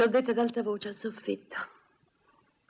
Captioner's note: none